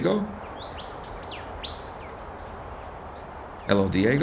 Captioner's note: birds chirping